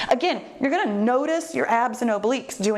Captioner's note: none